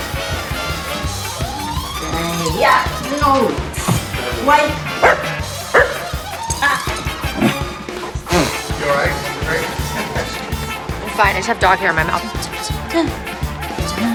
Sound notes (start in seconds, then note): 4.8 bark!; 5.3 bark; 6.8 woof